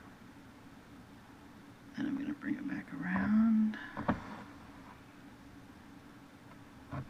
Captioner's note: awkward silence